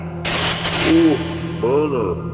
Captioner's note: electric zaps